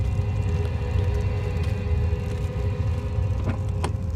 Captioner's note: fire rumbling